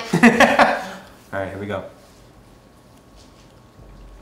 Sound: laughs loudly

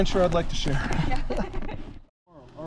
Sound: laughs

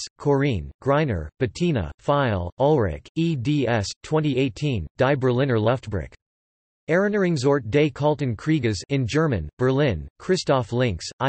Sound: in German

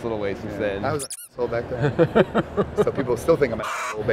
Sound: squeaker noise; chicken squawk

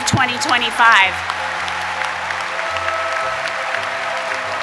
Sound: audience applauding

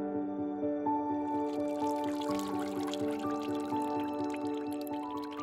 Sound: water trickling

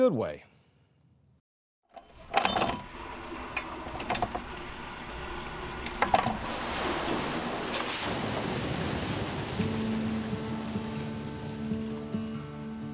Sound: sound of a wheel turning

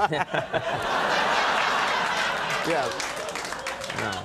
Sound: audience laughing; laughing

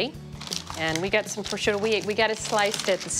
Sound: paper crinkling

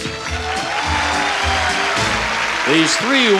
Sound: audience cheers

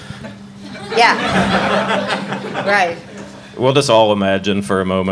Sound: audience laughing

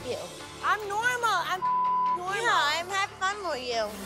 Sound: beep

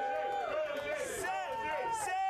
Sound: audience cheering

